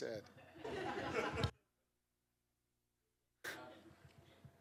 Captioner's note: laughter